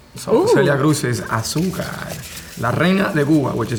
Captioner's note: foreign language